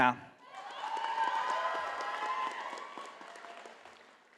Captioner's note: audience applauding